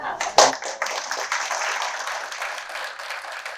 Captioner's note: applause